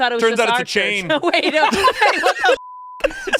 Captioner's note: beep